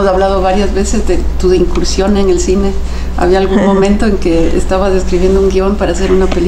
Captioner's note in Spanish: Se ríe